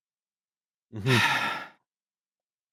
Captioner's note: sighs